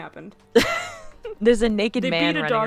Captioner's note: laughing